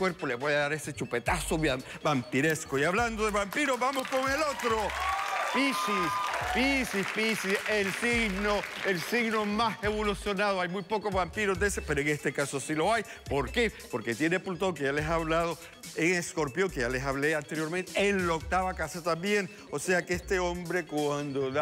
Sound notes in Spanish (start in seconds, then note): 5.1 Aplausos; 5.1 Exclamaciones